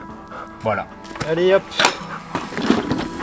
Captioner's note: kind of frenchy "Let's go!"